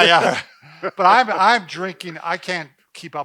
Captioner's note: chuckling